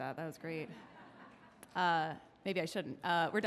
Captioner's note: audience laughs